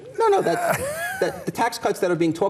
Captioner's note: laughing